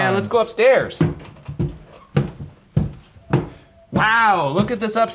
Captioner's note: foot stomping